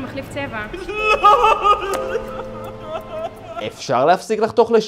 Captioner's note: crying